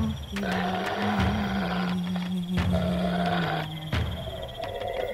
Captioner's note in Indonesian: suara serigala mendekati